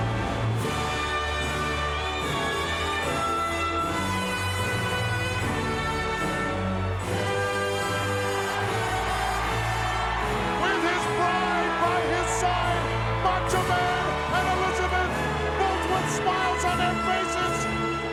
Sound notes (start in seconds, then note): 0.8 band music continues; 8.7 crowd cheers enthusiastically